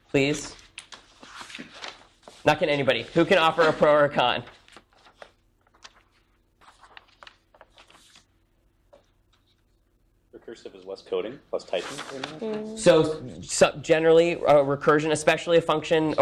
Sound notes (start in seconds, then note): 6.5 paper rustling